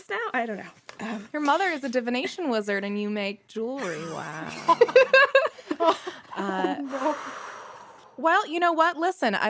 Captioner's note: laughter